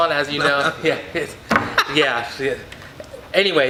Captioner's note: laughs